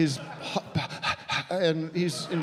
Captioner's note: panting